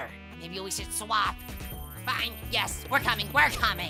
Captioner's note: bell ringing